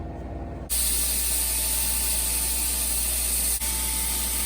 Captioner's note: grinding noise